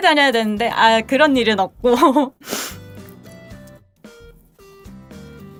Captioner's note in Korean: 콧방귀